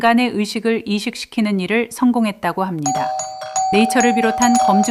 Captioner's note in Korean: 초인종 소리